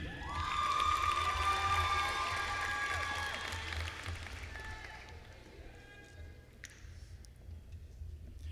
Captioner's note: applause